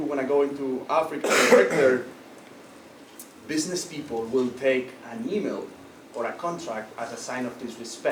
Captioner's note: cough